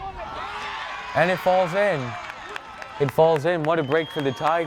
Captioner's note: crowd cheers